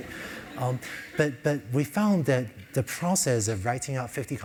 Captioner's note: laugh